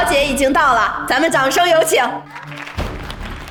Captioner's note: standing ovation